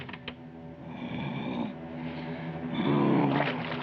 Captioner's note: growling